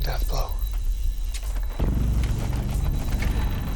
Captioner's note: crackling continues